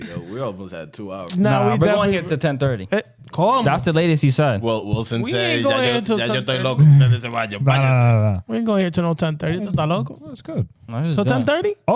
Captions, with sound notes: We almost had two hours. No, we're definitely-- We're going here to 1030. Call him. That's the latest he said. Well, we'll send him to the local. (Speaking In Foreign Language) We're going here to no 1030. It's not local. It's good. So 1030?